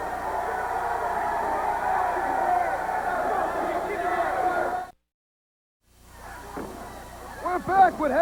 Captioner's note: crowd cheering